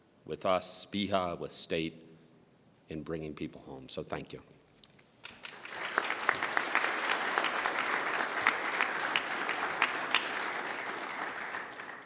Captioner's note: applause